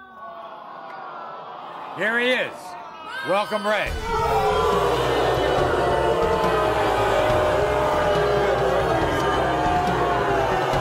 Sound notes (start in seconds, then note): 0.1 audience awes; 4.0 audience boos